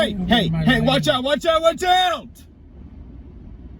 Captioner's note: sighs; yells